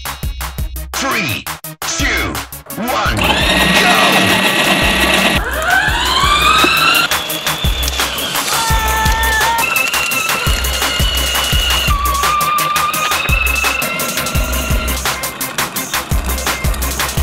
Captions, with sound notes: - [Voiceover] Three, two, one, go! (tires spinning) - Wow. (tires squealing) (upbeat music)